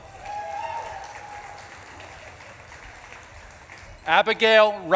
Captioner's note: audience claps and cheers